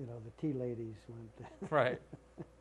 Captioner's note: laughter